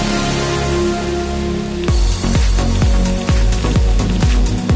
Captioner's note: stir-fry carrots and onions, sizzling sound in the background